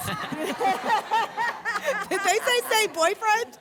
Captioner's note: laughter